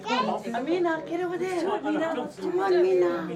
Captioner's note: group chattering